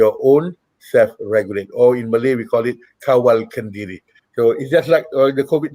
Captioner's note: non-english speech